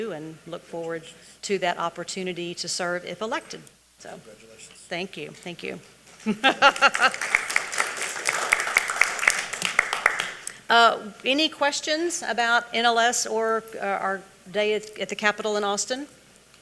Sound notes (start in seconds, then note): 6.1 laughs; 6.3 audience applauding